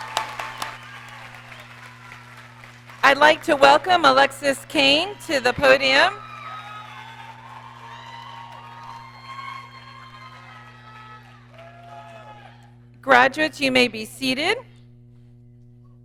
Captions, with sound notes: I'd like to welcome Alexis Cain to the podium. (audience cheering) Graduates, you may be seated.